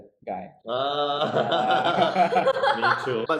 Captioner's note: cheering